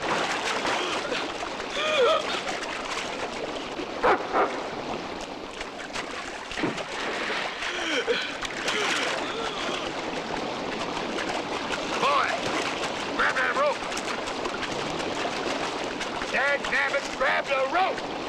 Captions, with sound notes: (gasping) (dog barking) (gasping) - Boy, grab that rope! Dagnabbit, grab the rope!